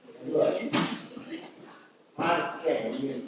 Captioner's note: some audience members mumble "What?"